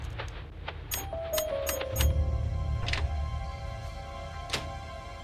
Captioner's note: machine beeping